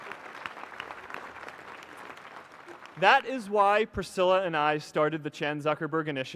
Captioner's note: applause